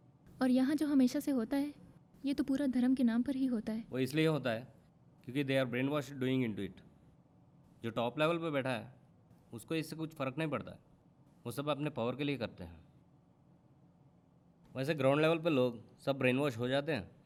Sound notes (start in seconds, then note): none